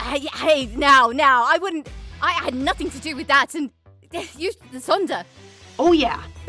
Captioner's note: sputters